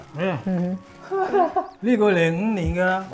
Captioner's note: laughs